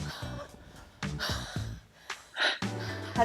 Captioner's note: breathing heavily